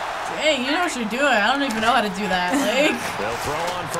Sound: chuckles

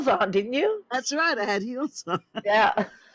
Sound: laughs

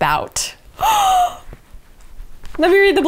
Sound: gasps

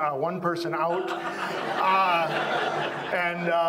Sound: audience laughs

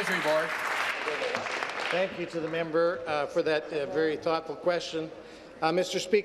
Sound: applause

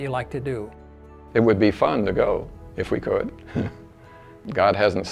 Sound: laughing

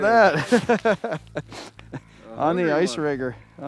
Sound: laughter

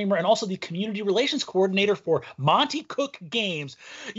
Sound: none

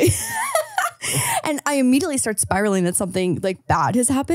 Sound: laughs

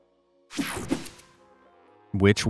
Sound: picture swooshes

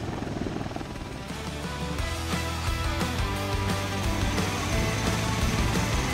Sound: blades whirring; upbeat music

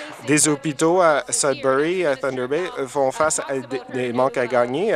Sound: applause

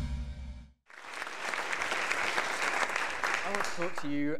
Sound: audience clapping

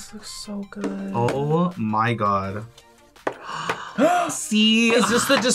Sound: gasps

